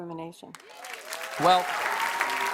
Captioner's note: applause